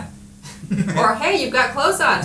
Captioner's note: laughing